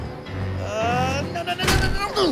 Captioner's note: yelling